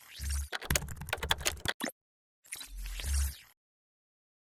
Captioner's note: typing